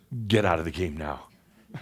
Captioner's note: some chuckles